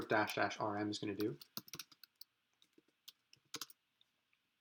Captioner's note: typing